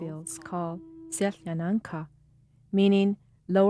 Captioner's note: speaking a foreign language